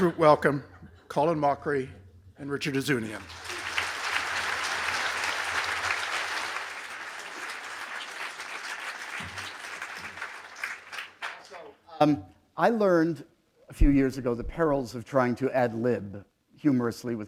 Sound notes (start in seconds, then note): 0.0 laughter; 4.4 applause